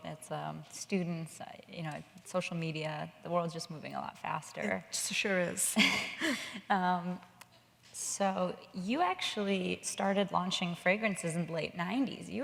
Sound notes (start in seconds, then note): 5.5 Paulina laughs